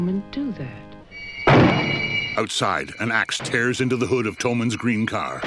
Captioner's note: banging